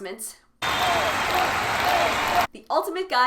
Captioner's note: cheering